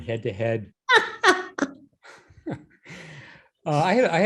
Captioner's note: Christiana laughing